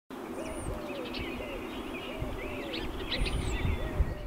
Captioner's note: birds chirping